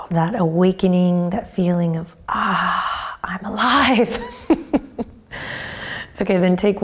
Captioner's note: laughs